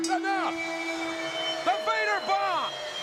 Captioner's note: bell rings